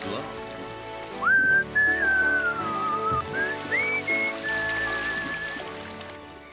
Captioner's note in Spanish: silbido